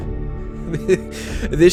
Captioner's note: more uneasy laughter